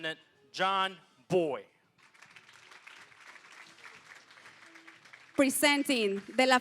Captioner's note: applause